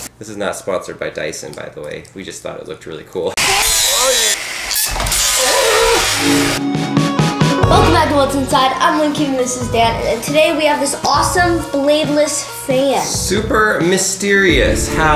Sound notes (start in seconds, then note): 3.5 mechanic whirring; 5.9 electronic music